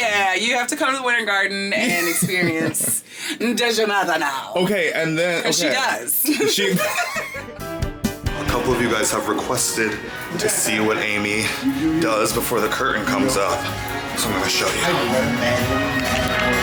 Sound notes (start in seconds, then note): 6.2 laughing; 7.5 upbeat music; 16.4 upbeat music